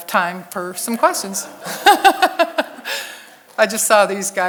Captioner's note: all laugh